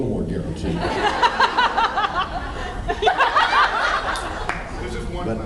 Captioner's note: laughs